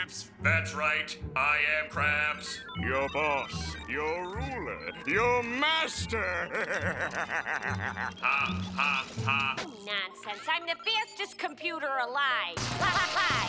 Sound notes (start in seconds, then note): 5.0 laughing; 12.5 stammering